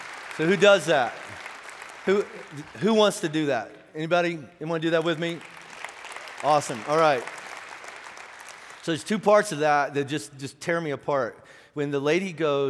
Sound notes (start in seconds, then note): 7.8 clapping